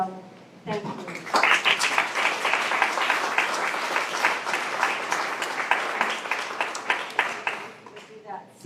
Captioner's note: applause